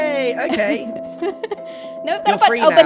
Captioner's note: laughs